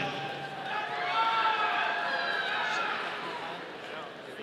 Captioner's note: audience cheering